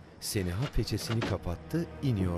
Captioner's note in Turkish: Kapı açılma sesi